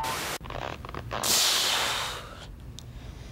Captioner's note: creaking